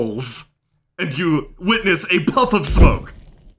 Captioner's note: poof